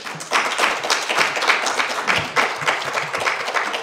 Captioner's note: applause